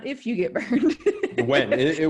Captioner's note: laughing